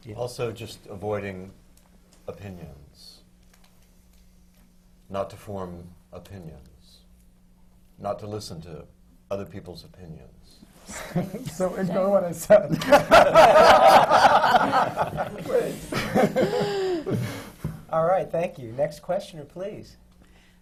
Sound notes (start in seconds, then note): 12.6 laughter; 12.7 laughs